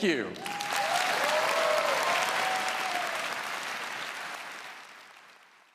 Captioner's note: applause